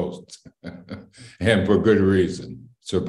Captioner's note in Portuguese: Risos